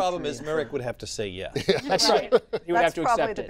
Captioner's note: laughter